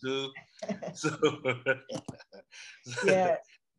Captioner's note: both laughing